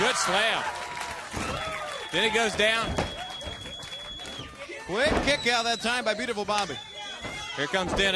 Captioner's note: crowd cheering